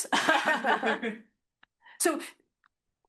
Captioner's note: all laughing